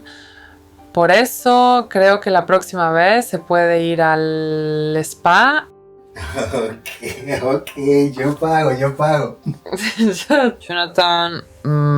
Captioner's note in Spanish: risas